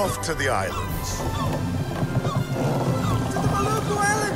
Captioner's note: seagulls cry